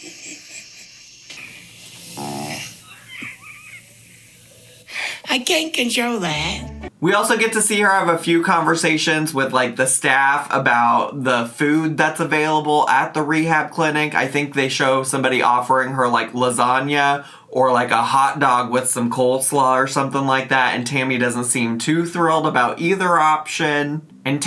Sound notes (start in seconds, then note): 0.3 Tammy laughing; 2.4 trache tube hisses and croaks